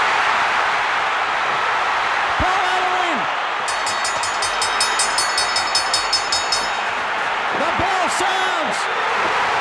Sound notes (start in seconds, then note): 0.1 crowd cheers; 3.6 bell rings